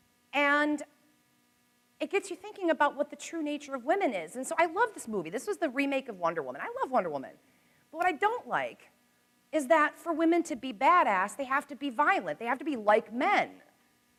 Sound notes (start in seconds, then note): none